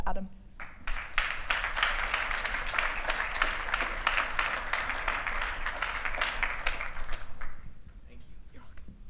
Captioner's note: applause